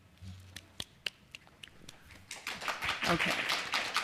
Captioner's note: applause